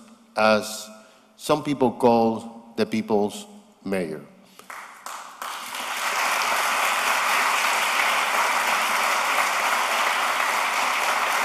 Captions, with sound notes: as some people call the people's mayor. [ Applause ]